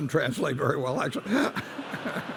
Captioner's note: laughter